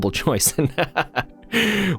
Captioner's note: laughs